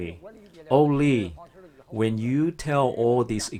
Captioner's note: speaking foreign language